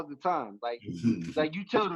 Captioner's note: giggles